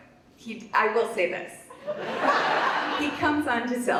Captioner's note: audience laughs